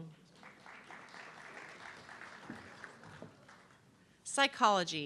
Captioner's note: audience clapping